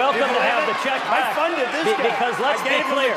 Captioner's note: applause